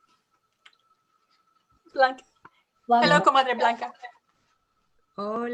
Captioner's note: speaks Spanish